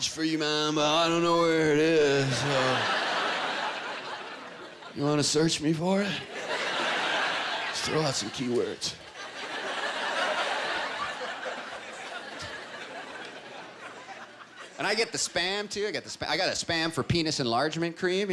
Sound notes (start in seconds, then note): 10.7 laughter